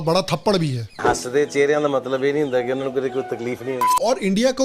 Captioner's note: speaking in Punjabi